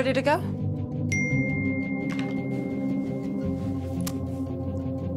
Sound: phone beeps

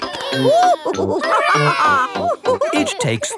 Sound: children straining; giggles; madam gazelle laughing

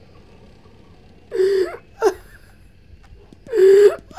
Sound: sobbing

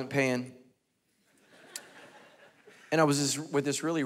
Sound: congregation laughing

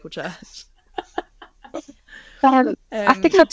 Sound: laughs

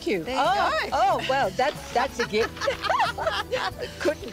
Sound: laughter

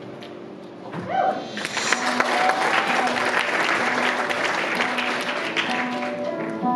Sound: applause

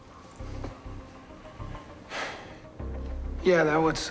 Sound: sighs

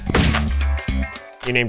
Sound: thud

